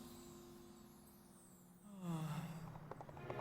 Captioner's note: sighs